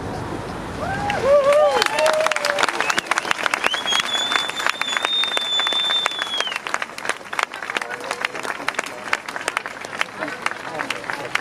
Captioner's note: applause